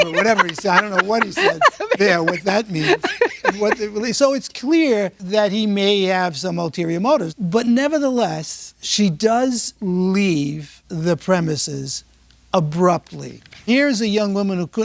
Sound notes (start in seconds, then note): 3.4 laughing